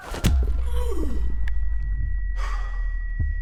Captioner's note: whistle